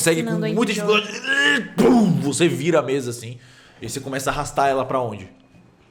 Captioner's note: pow